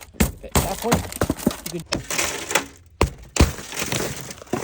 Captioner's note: glass shattering; hand hitting window